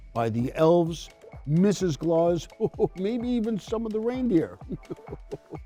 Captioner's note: chuckles